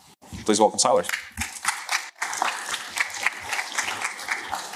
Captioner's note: applause